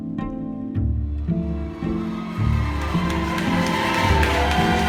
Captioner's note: crowd cheering